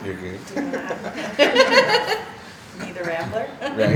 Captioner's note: laughing